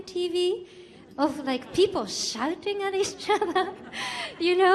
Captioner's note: laughs